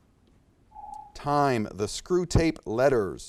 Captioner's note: alarm echoes